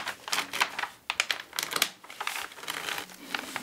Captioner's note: rustling, crackling